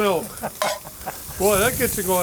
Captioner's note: laughing